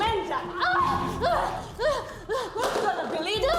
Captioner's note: both grunting